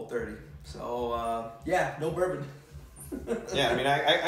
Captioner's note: laughs